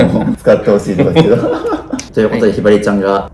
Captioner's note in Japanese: 笑い